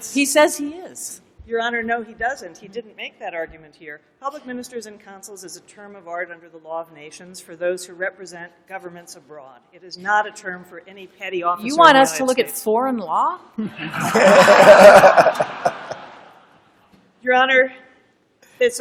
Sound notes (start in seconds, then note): 13.7 laughter